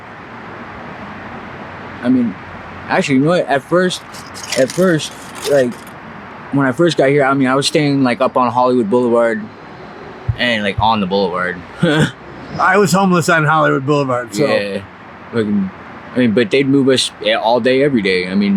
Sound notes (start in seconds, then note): 11.9 chuckles